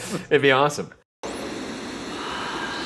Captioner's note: static crackling